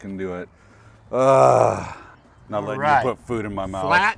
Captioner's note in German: stöhnt